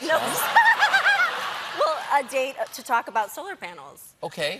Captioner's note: laughter